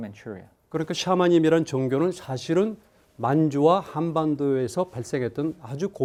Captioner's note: speaking in Korean